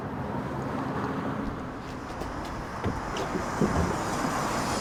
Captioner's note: traffic rumbles